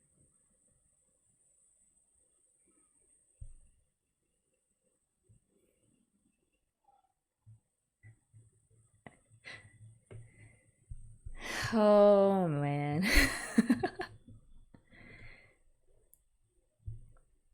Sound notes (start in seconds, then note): 13.0 laughs